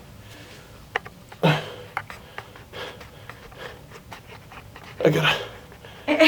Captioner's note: struggle noises; laughing